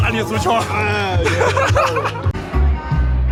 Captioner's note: laughs